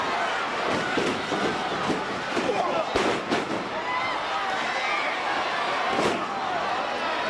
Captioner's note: crowd chattering; stage clattering